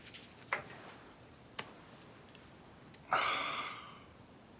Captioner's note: photo rustling